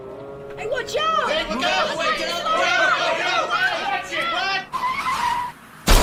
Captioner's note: more shouting